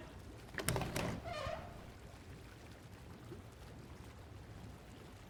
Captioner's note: door squeaking